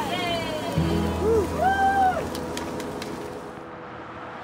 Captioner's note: group cheering